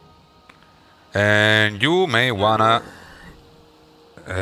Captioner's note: Dumrag groans